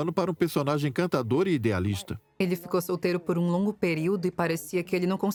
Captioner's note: voiceover